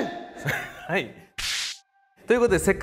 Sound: snap

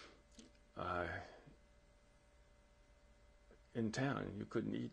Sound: pauses for 3 seconds

